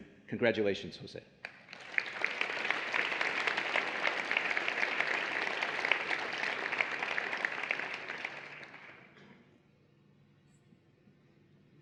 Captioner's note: applause and Cheering